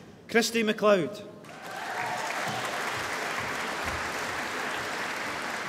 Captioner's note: applause